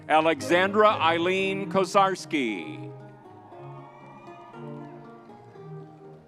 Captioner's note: crowd cheering